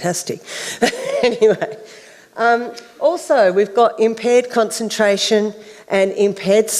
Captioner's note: laughs